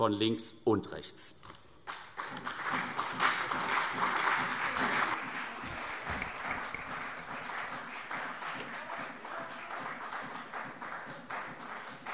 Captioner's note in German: Beifall CDU